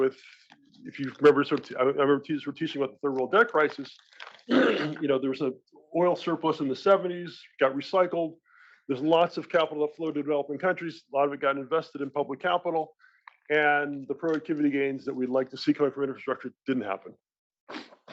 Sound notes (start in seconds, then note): 4.4 cough